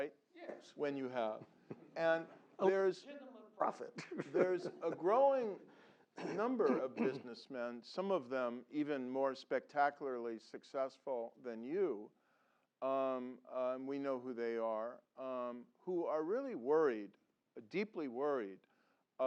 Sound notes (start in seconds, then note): 3.7 laugh